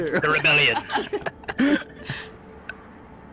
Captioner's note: all laughter